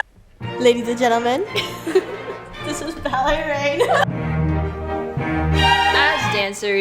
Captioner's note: laughs